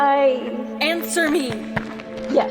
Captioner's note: hesitant